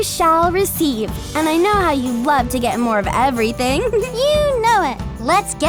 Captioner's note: laughs